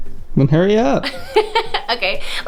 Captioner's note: laughter